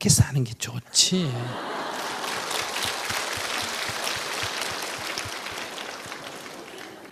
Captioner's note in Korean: 청중 웃음/박수